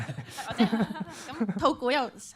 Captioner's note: laughs